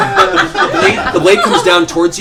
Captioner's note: laughter